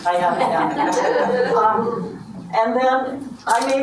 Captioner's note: audience laughs